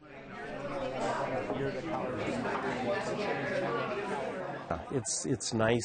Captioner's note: group chattering